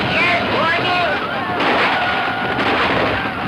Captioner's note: guns firing